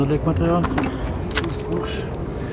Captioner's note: he murmurs